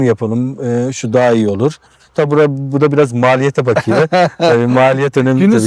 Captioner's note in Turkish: kahkaha